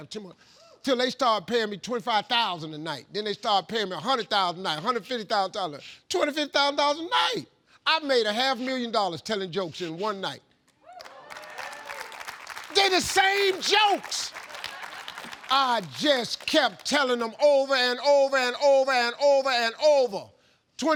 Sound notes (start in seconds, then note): 11.0 audience clapping; 14.5 audience laughing